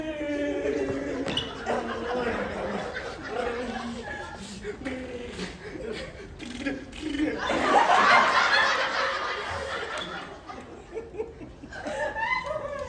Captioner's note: laughter